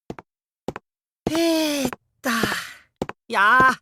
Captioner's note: stretching grunt